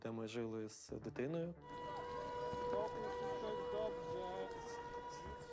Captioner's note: air raid siren sounding